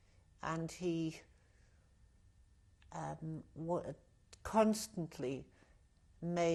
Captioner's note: pauses for 3 seconds